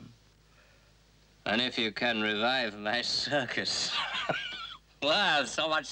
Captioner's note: laughs